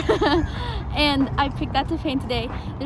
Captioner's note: laughs